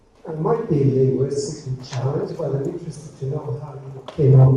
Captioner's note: man speaking